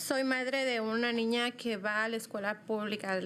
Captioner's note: speaking in spanish